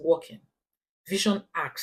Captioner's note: paause